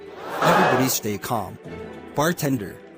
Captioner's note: crowd gasp